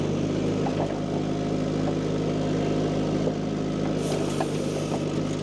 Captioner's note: machine rumbling continues